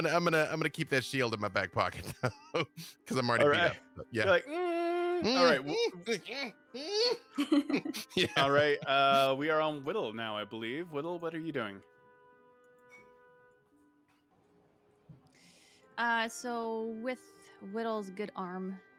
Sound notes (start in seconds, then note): 3.4 groaning